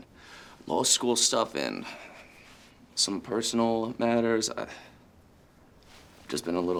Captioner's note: sighs